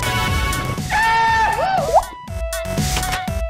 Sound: goofy scream

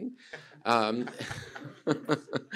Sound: laughter

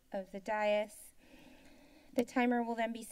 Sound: inhales

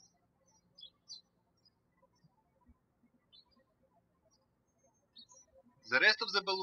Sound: birds chirping

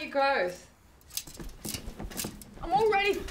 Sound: squeaky mattress spring

